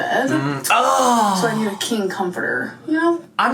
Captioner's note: groans